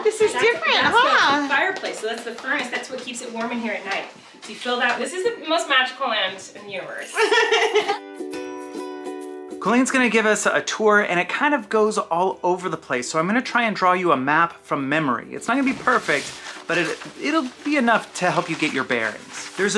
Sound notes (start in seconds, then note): 7.1 laughter; 8.4 light upbeat music